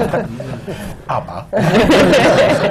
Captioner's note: laughter